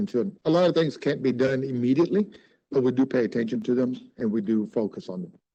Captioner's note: speaking Spanish